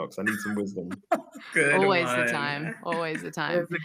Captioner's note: laughter